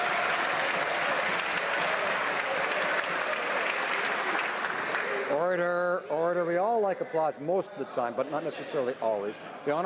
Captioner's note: some Applause